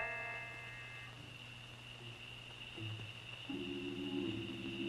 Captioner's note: insects chirping; stirring music